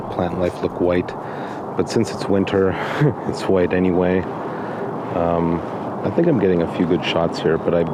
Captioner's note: chuckle